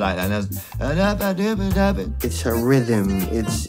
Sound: hums

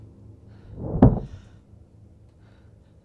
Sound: loud thud

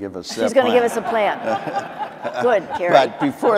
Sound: audience laughing

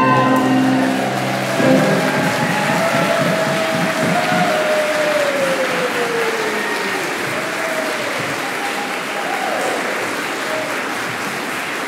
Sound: applause

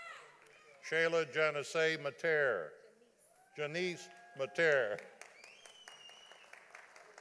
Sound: audience applauding

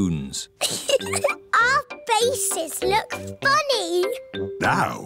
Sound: giggles

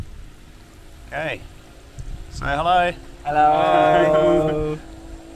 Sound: all saying hello

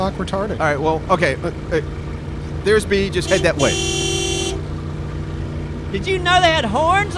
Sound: Jeep Horn - Beep Beep

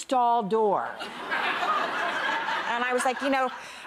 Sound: audience laughs

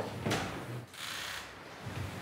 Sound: door creaking

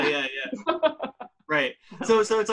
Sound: laughing

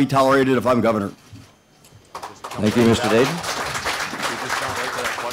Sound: applause

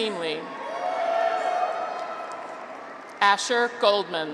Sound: graduates cheer

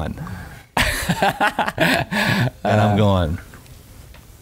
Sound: laughing

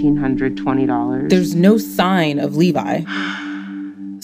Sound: sighs

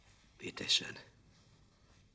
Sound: in German

